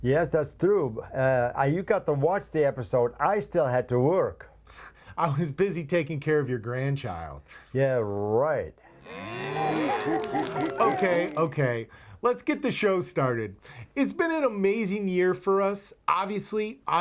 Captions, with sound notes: - Yes, that's Tube. I recapped and watched the episode, I still had to work. - I was busy taking care of your grandchild. - Yeah, right. (mooing and applauding) - Okay, okay, let's get this show started. It's been an amazing year for us, obviously,